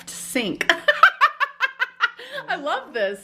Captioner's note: laughs